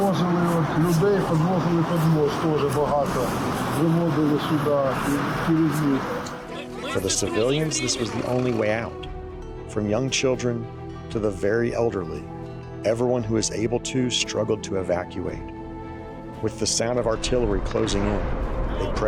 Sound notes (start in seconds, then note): 6.8 in English